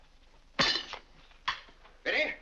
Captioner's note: silverware clangs